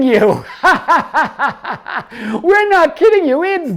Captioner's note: laughing